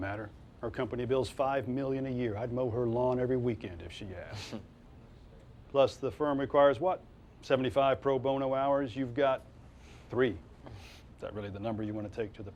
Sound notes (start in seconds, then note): 4.3 Silk chortles